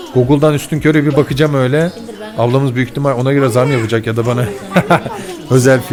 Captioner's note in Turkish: kahkaha